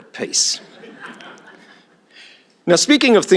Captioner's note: laughter